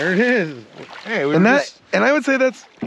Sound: fish splashing

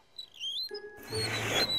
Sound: wheels squeaking

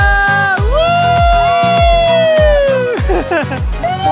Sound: cheering; laughing

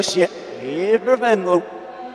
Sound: reversed recording

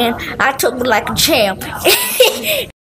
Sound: laughter

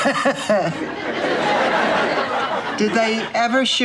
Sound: she laughs; audience laughter

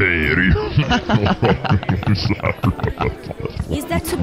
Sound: laughter

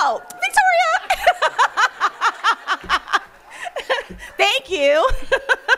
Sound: laughing

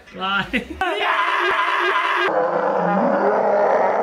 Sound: screaming

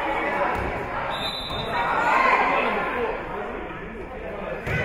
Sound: whistle being blown

